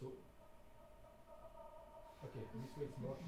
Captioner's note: dragging sound playing